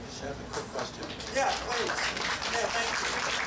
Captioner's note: audience applauding